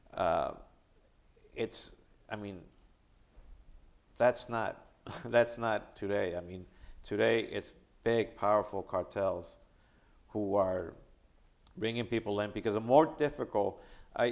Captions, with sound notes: It's, I mean, that's not (chuckling) that's not today. I mean, today it's big powerful cartels who are bringing people in because the more difficult...